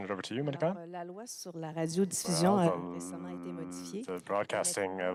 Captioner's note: speaking French